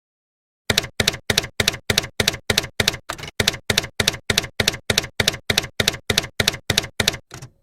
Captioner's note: typewriter keys clacking